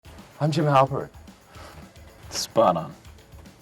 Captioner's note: mocking